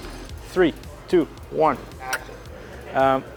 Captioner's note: smacks teeth